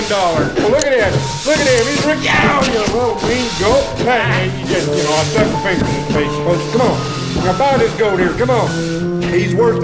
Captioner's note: sweeping Sounds